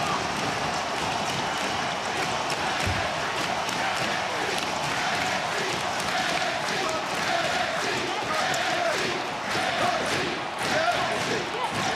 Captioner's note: crowd cheering